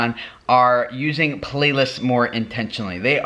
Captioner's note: pinging